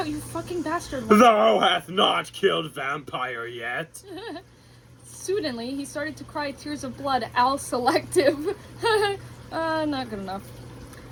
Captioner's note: cries selectively